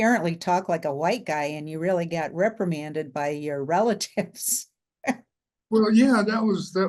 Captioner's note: chuckles